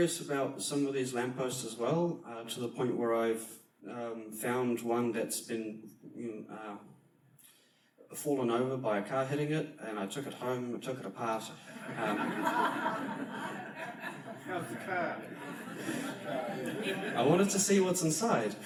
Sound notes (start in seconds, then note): 11.6 audiance laughs